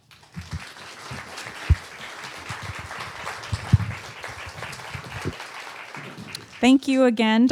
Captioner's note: audience applauding